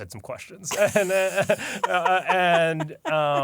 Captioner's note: laughter